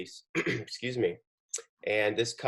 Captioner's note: clears throat